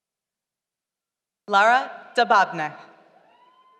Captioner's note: none